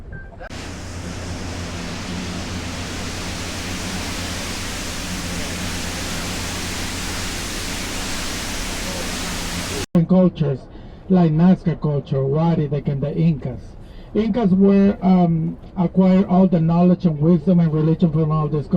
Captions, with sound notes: [boat engine and ocean ambience] Cultures like the Nazca culture, the Wari, and then the Incas. The Incas acquired knowledge, wisdom, and religion